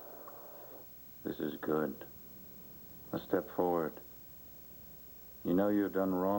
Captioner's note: normal voice